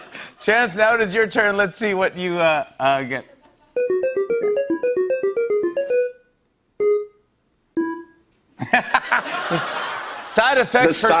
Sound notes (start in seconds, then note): 3.7 tones play; 8.6 laughter